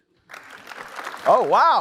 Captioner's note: applause